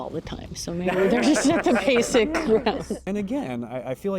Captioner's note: everyone laughing